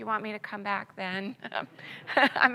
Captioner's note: audience laughs